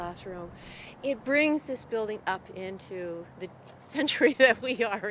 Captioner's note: laugh